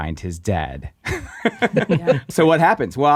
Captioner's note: laughing